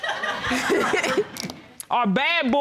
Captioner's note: laughter